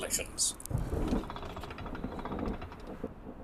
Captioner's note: distant thunder